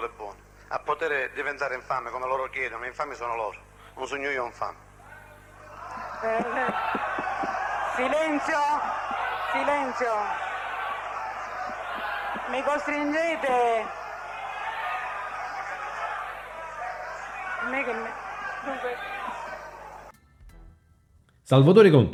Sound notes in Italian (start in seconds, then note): 8.8 Applauso